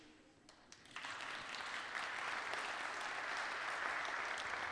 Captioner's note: applause